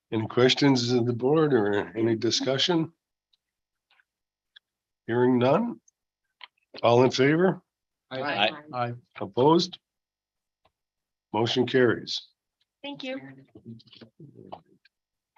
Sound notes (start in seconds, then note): 3.9 silence; 10.6 silence